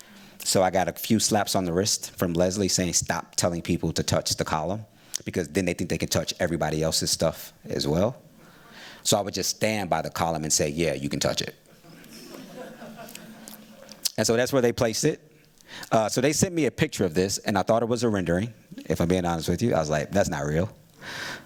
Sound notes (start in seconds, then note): 11.7 laughter